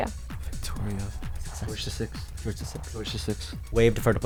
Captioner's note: wispering